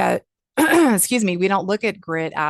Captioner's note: clears throat